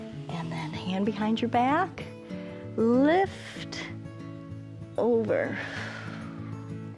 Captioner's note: exhales